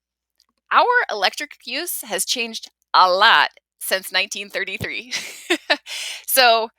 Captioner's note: laughs